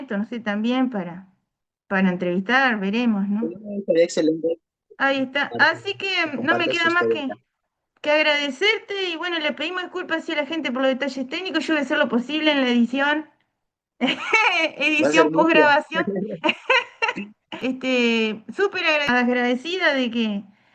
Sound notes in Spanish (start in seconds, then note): 17.6 risas